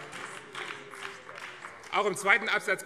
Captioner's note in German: Beifall BÜNDNIS 90/DIE GRÜNEN - Zurufe CDU und SPD: Oh!